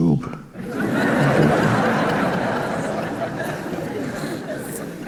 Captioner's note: audience laughing